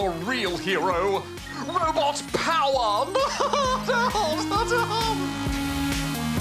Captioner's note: laughs